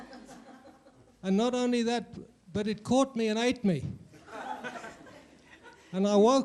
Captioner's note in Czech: smích